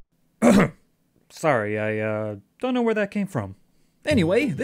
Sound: clears throat

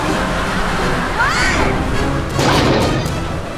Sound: screaming

